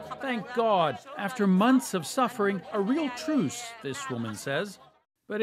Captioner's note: speaking alternate language